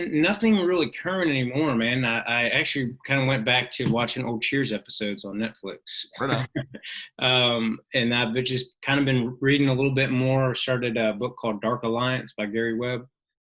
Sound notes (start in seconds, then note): 5.8 laughs